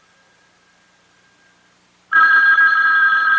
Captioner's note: phone ringing